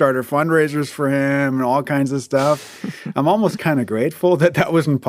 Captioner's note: laughs